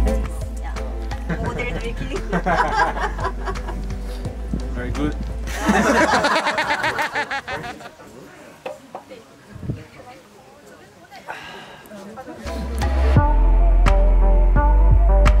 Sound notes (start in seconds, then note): 5.4 group laughing